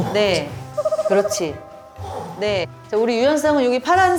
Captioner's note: grunting in pain